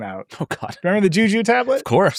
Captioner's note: laughs